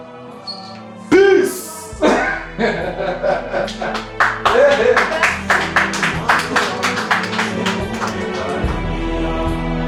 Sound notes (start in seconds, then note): 3.6 applause